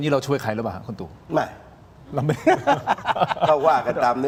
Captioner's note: laughs